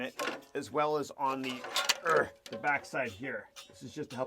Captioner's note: grunts